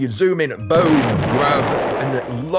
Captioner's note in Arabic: بوم